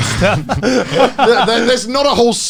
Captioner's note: all laughing